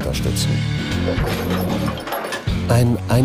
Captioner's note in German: Scheppern